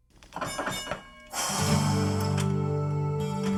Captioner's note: bell rings; soft music